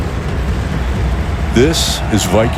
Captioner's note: crowd cheering